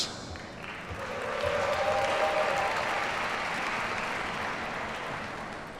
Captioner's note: audience cheers and applauds